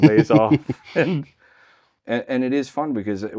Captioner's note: laughing